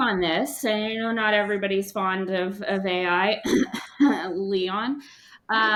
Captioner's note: ahem